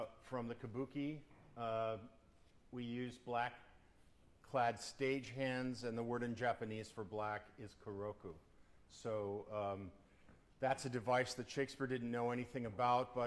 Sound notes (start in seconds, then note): none